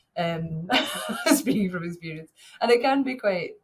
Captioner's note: chuckles